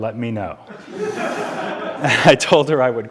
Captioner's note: audience laughing